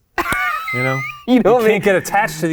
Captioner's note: laughs